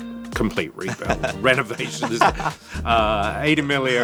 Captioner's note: laughter